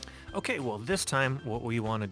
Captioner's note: voiceover